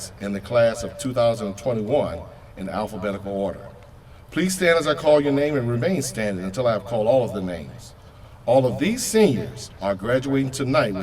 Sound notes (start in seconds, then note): none